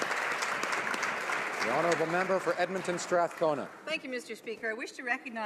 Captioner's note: applause